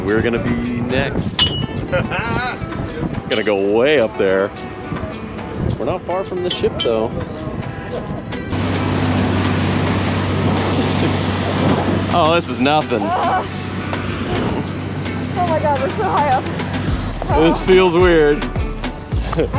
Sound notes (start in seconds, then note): 1.8 laughs; 9.6 motor engine roaring; 19.2 chuckling